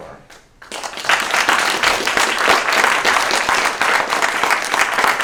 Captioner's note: applause